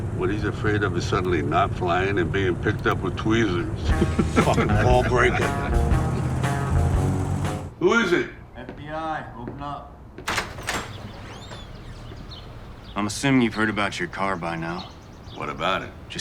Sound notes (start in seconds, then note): 3.8 Michael laughing; 10.2 door clicking